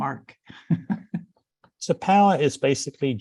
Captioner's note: chuckles